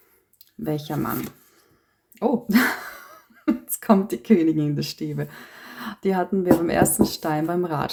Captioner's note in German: gelächter